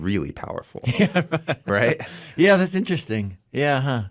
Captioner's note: laughs